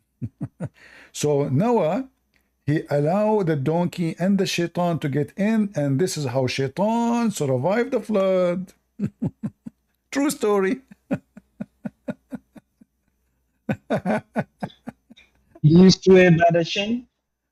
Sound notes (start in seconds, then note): 10.7 Ketawa